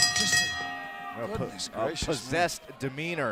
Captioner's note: bell ringing